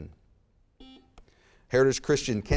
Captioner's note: buzzer beeps